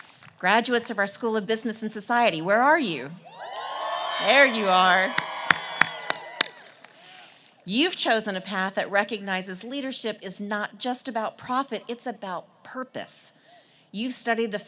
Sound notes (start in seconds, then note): 3.3 cheers and applause